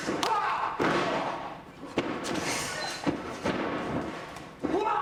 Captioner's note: body thuds